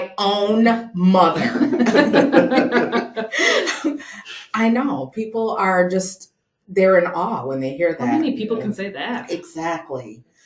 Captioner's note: laughter